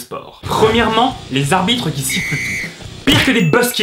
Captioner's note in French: coup de sifflet